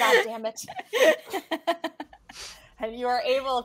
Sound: laughing

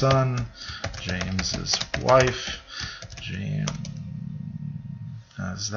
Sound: typing

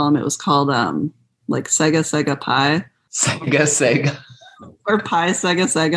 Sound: laughter

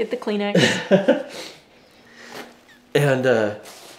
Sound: laughs

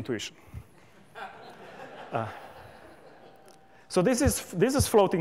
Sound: laughter

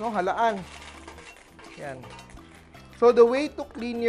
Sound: rustle

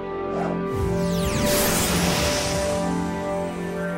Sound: Pokeball swooshing

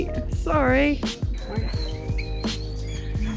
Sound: kites screeching

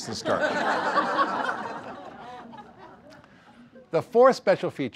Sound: audience laughter

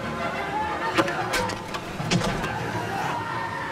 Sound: clattering

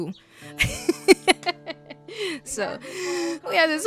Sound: laughs

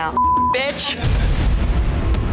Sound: beep

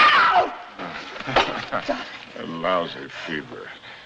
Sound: chuckles

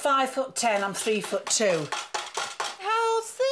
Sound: bread banging

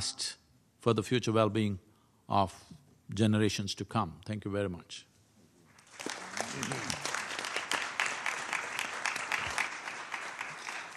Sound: applause

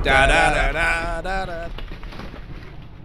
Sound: weird glitching

